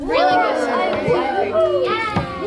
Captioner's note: all whoop